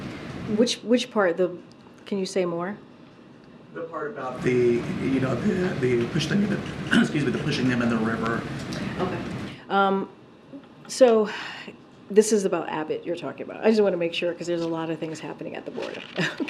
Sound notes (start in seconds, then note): 6.4 clears throat